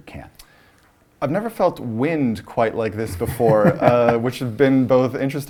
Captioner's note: laugh